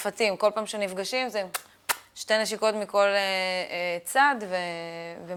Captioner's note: mimics kissing